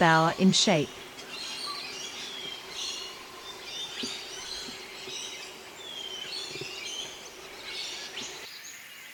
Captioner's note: birds sounds and chirps